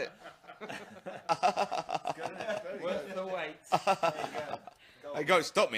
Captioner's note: sarcastically